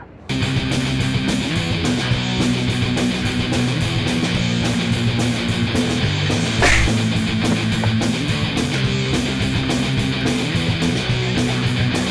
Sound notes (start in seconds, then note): 0.3 heavy rock music; 6.6 loud thwack; 7.4 heavy rock music